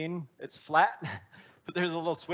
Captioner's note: chuckling